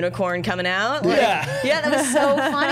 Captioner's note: all laughing